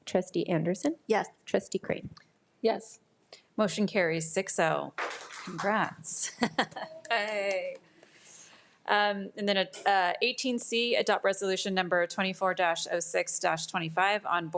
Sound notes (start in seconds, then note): 6.2 chuckles